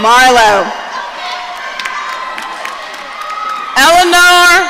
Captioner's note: audience cheering